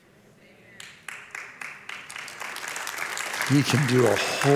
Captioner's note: audience applauds